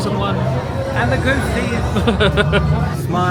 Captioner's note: laughing